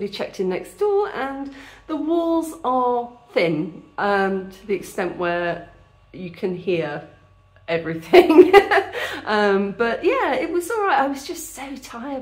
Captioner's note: laughing